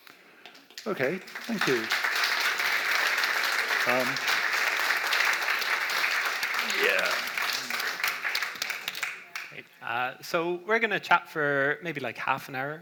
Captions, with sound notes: Okay. Thank you. (audience applauds) Yeah. - So we're gonna chat for maybe like half an hour,